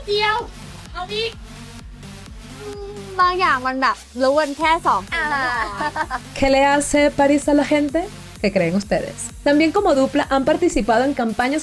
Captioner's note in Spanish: risas